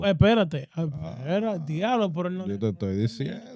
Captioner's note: speaking In Foreign Language